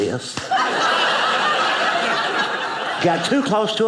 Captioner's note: audience laughing